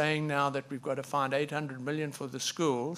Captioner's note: none